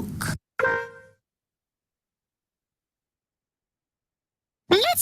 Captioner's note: horn honking